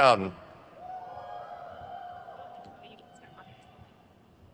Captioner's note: crowd cheers